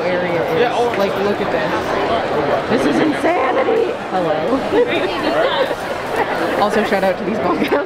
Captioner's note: laughter